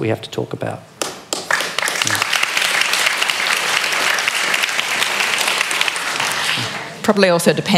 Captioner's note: applause